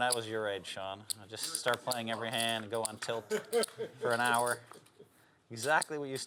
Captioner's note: laugh